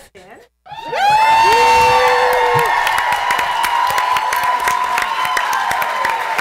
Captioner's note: cheers